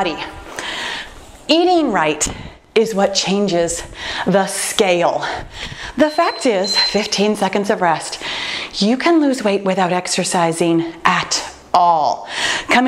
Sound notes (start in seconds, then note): 5.9 timer beeping